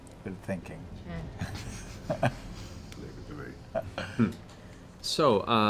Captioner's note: laughs